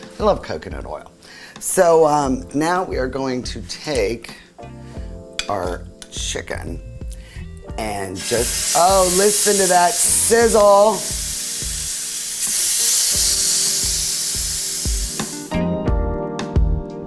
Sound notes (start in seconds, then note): 7.9 pan sizzling; 14.0 soft jazz music